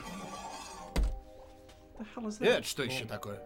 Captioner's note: latches pop; air hisses